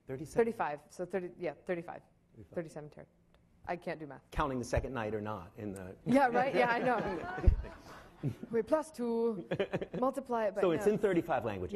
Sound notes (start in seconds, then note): 6.2 laughing; 8.6 speaks in foreign language